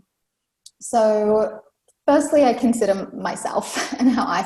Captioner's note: laughs